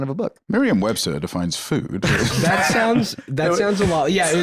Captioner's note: laughs